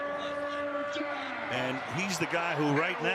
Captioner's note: pa announcement